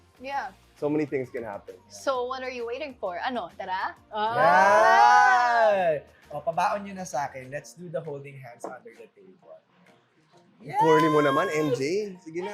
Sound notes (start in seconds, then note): 4.2 all exclaim